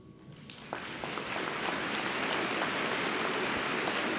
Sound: audience applauds

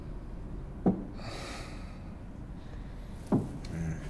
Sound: footsteps approaching

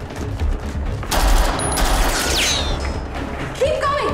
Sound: automatic gunfire

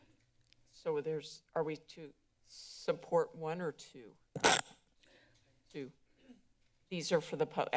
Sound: feedback sound

